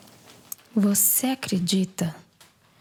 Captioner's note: whispering